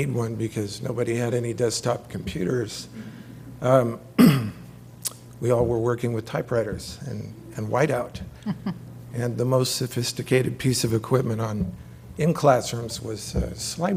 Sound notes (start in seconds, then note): 5.8 laugh